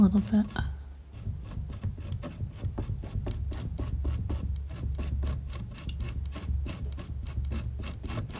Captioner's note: scratching